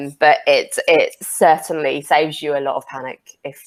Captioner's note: none